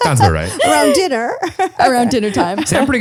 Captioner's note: laughs